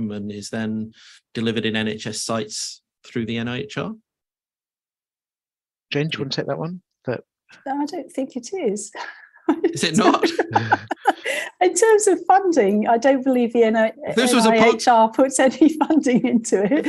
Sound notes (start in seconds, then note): 9.0 laughs